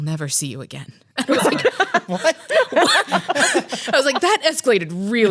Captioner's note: laughs